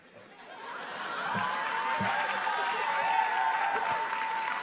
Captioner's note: audience laughing; audience cheering